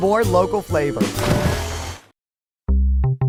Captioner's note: water splashing; funky music